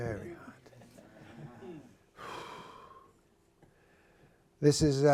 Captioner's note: laughter